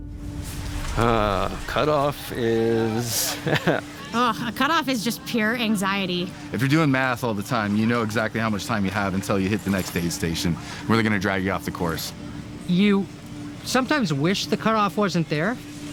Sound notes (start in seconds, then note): 3.1 laughter